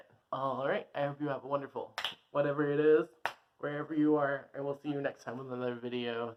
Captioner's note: snap